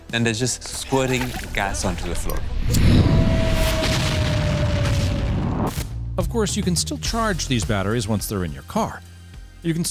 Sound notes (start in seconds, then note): 2.5 explosion booms